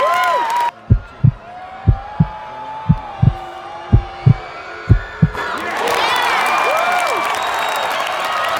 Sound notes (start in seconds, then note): 0.7 heartbeats; 4.7 cheers